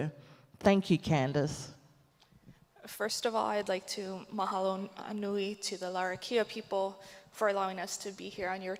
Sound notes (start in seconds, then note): 4.5 speaks native language